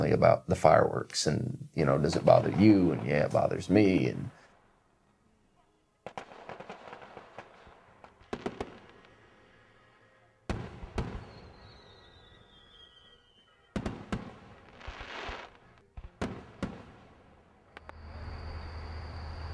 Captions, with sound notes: about the fireworks and does it bother you, and yeah, it bothers me. [FIREWORKS]